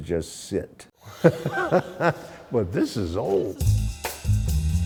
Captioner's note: laughs